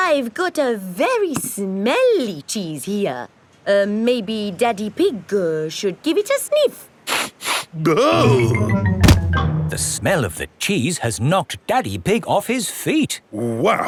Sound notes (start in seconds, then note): 7.2 sniffs and groans